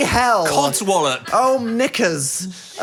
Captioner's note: producer laughing